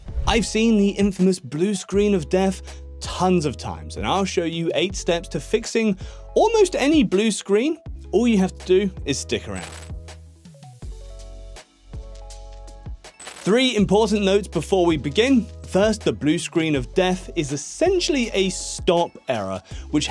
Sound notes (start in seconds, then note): 9.5 logo crackling; 10.0 tranquil music